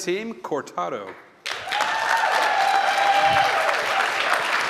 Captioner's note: applause